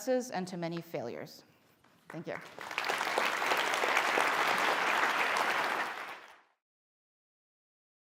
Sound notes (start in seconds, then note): 2.0 applause